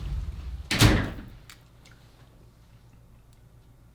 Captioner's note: door shutting